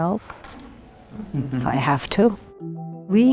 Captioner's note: laughter off-screen